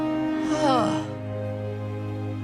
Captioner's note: sighing